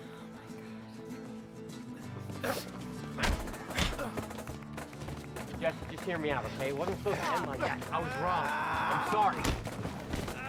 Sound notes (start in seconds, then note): 9.0 gritando